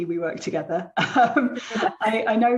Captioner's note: laughing